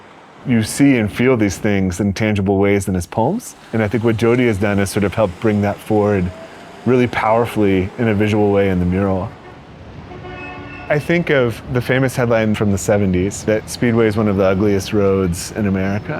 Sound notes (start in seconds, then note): 9.1 cars honking